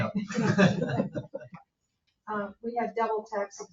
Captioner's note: people chuckling